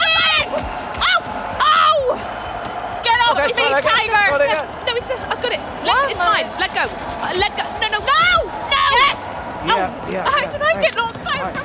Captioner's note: shouting